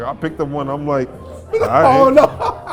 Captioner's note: sniffs; laughs